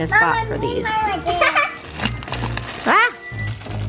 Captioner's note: laughs